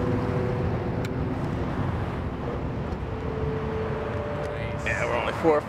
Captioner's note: air whooshing